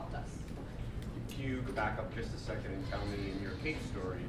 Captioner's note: voiceover